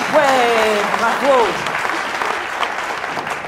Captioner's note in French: applaudissements